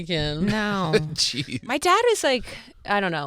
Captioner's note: laughing